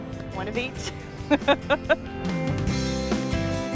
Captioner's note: laughs